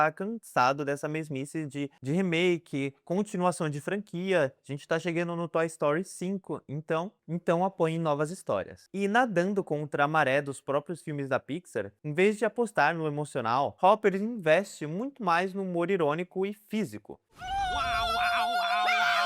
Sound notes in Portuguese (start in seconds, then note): 17.3 grito